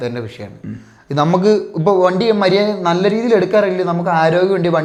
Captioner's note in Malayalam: തൊണ്ട ശരിയാക്കുന്നു